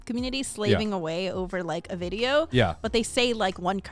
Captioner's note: men laugh